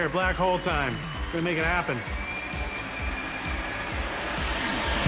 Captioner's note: audience cheers, applauds; audience gasps